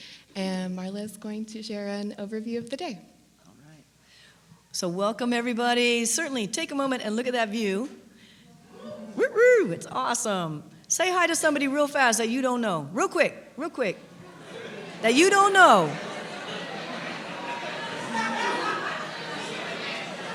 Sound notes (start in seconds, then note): 8.7 cheer; 16.0 audience talking